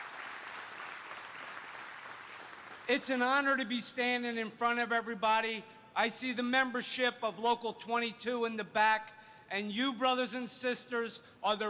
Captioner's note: applause